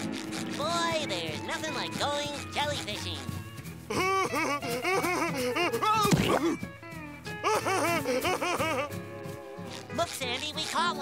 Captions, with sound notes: Boy, there's nothing like going jellyfishing. [laughing] Look Sandy, we caught one!